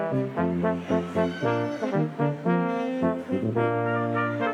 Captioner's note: crowd chattering